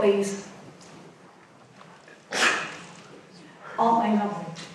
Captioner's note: audience muttering